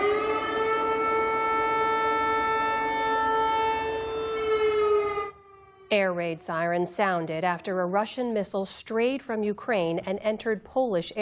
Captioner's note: sirens